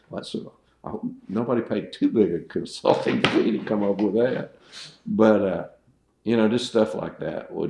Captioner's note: laughs